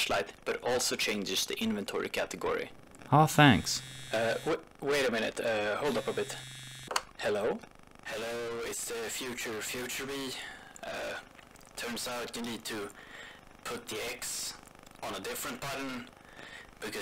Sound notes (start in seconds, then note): 0.0 distorted voice; 3.1 phone buzzing; 4.6 distorted voice; 6.7 more distorted voice